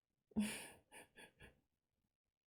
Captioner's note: chuckles